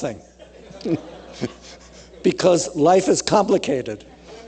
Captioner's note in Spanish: risas